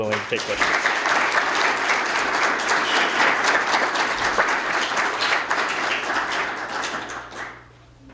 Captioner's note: applause